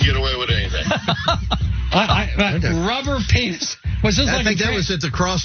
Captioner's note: laugh